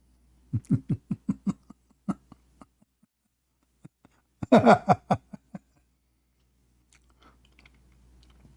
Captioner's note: Ketawa